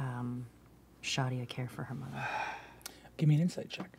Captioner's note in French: soupire